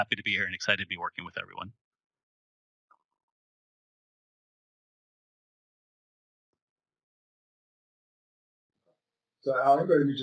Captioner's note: pause